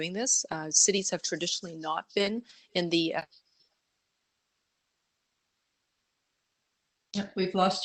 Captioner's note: audio drops